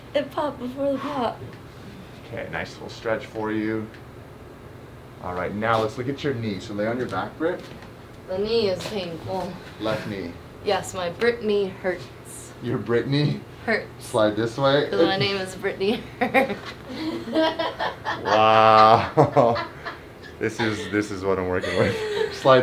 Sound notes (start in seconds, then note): 15.8 laughing